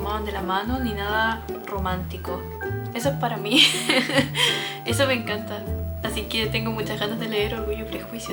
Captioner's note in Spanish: risas